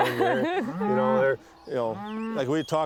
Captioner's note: cows moo